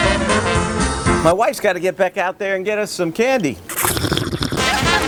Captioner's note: slurp